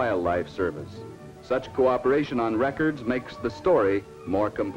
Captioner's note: none